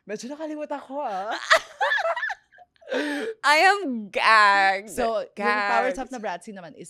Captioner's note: laughs